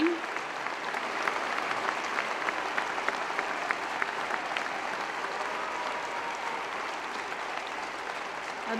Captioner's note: applause